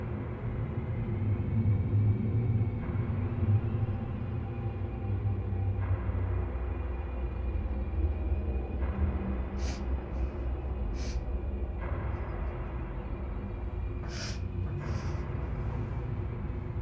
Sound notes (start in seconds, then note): 9.5 Claire sobs; 9.5 tense music